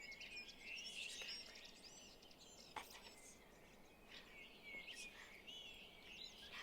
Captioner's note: birds chirping